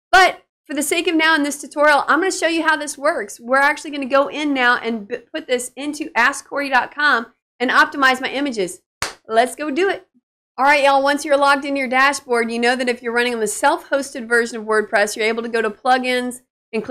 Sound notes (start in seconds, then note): 9.0 claps hands